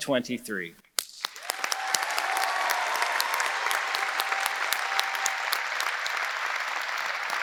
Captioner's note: audience applauding; audience cheering